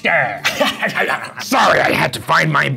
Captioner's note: laughing